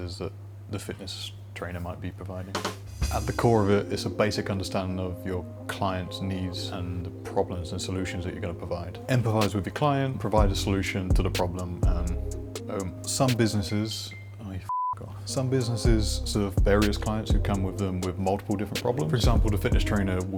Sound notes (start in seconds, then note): 13.4 phone dings; 14.7 beep